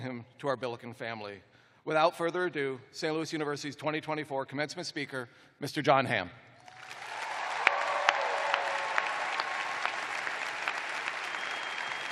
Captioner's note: cheers and applause